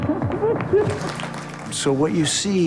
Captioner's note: applause